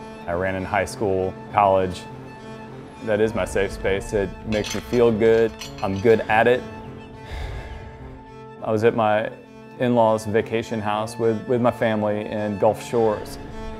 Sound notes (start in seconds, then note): 7.2 sighs